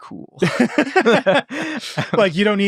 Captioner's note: all laughing